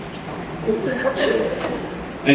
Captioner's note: laughter